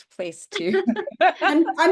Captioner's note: laughter